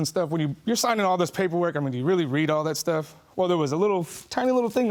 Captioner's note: none